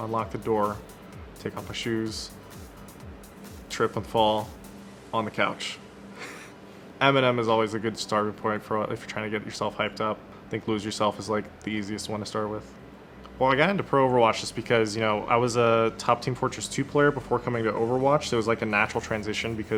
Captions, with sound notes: Unlock the door, take off my shoes, trip and fall, on the couch. (laughing) Eminem is always a good starting point for if you're trying to get yourself hyped up. Think Lose Yourself is like the easiest one to start with. Well I got into pro OverWatch just because, you know, I was a top Team Fortress 2 player before coming to OverWatch so it was like a natural transition